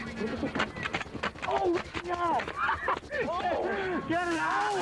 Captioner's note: paint gun popping